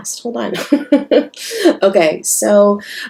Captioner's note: laughs